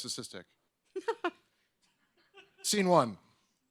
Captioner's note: woman laughs